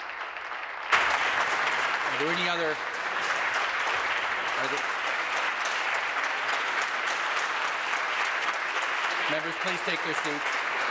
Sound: applause

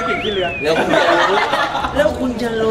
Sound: laughs

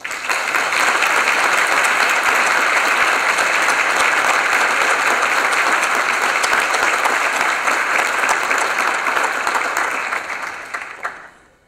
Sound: applause

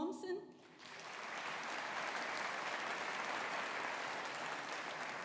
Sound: audience applauding

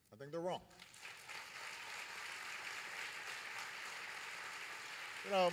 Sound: applause

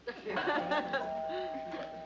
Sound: doorbell

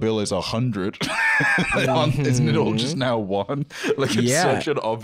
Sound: laughs

